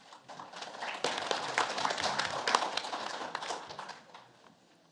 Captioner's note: audience applauds